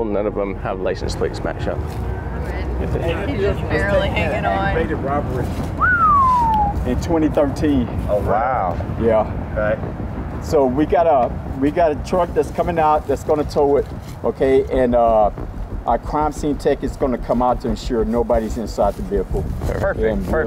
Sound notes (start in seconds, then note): 5.8 whistling